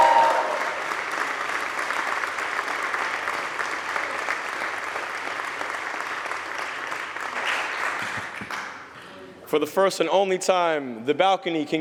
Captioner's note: cheers and applause